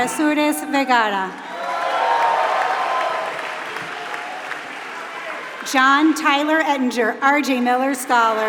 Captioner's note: applause